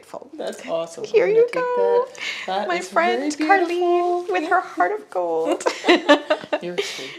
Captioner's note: giggles